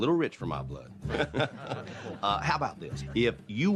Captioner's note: chuckles